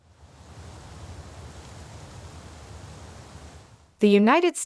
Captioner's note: wind